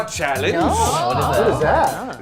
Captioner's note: crowd